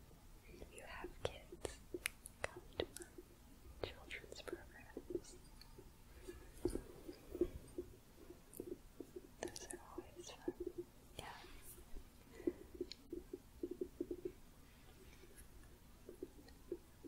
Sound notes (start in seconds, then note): 5.7 gentle tapping, jingling; 11.8 gentle tapping